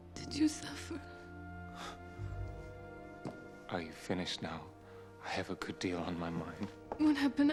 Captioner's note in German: schnauzt